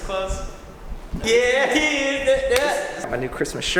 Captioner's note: random noises of affirmation